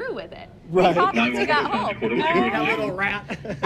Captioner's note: laughs